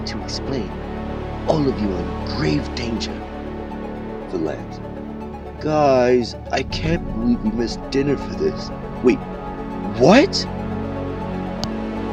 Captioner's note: whiny, then loud and shocked